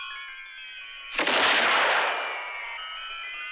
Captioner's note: gunshot